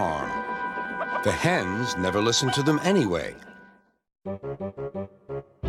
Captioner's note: hens clucking